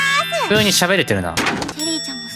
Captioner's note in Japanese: 物音